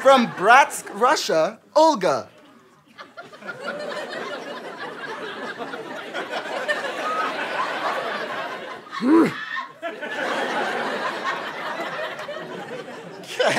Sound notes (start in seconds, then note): 2.8 audience laughter